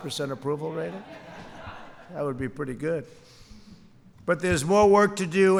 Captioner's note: laughter